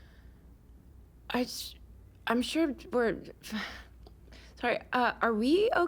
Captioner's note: sighs